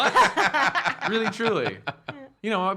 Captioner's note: laughing